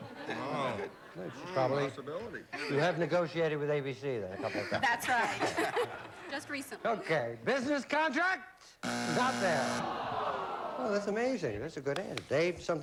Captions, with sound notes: SHE'S PROBABLY-- YOU HAVE NEGOTIATED WITH ABC A COUPLE OF TIMES. THAT'S RIGHT. JUST RECENTLY. OK. BUSINESS CONTRACTS! [BUZZER] NOT THERE. THAT'S AMAZING. THAT'S A GOOD ANSWER.